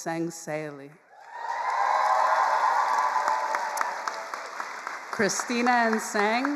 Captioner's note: all cheering and applauding